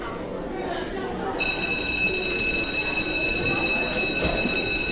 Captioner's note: people chattering; bell ringing